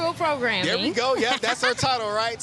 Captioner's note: laughs